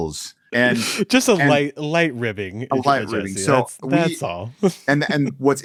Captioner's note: laughs